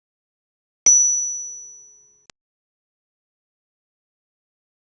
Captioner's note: high tone chimes